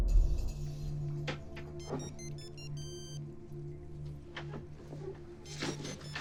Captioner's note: phone ringing